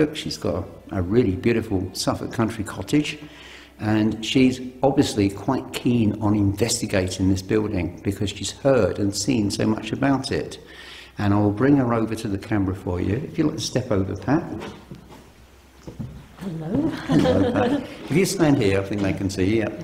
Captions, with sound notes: She's got a really beautiful Suffolk country cottage, and she's obviously quite keen on investigating this building, because she's heard and seen so much about it, and I'll bring her over to the camera for you, if you'll step over, Pat. (shoes clopping) - Hello (laughs). - If you stand here, I think they can see you.